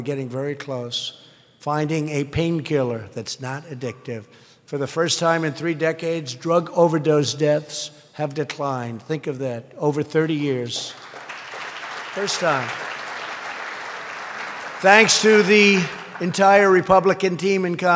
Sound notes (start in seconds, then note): 10.7 applause